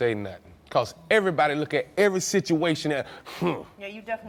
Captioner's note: huffs